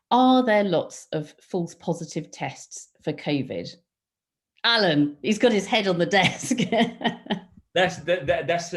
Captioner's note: laughing